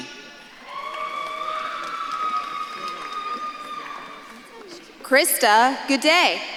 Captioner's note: audience claps and cheers